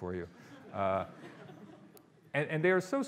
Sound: audience laughing

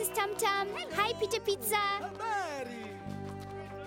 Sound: in Swahili

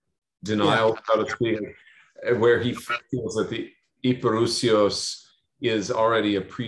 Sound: non-english

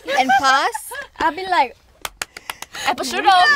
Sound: claps

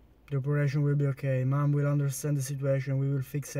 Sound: none

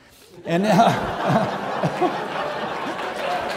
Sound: audience laughing; audience clapping

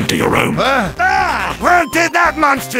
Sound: screams

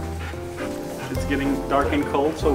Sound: dog panting

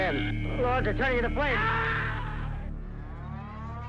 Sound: scream

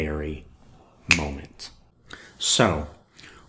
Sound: finger snap

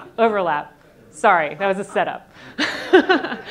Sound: laughs

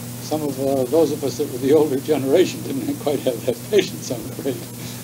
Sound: chuckles

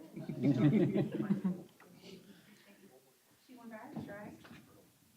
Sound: laughter

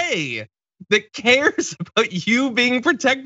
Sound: laugh

